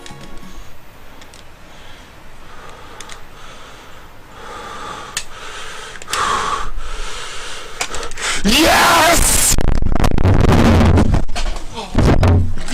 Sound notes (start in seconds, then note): 1.6 heavy breathing; 6.1 heavier breathing; 8.4 loud microphone feedback